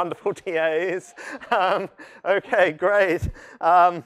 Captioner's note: laughter